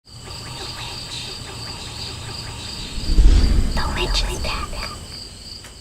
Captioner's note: whispers